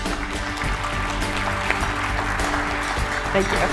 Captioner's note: applause